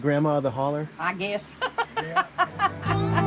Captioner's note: laughing; laid back country music